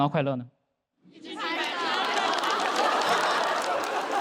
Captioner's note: keep clapping